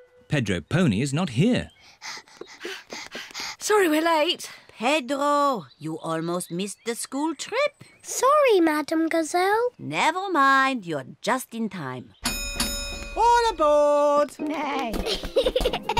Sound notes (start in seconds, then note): 1.8 panting; 12.2 dings bell